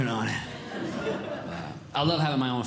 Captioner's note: audience Laughing